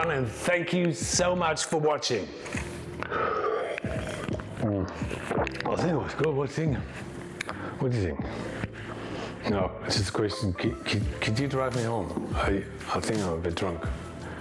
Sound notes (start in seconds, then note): 2.4 slurps; 2.9 gulps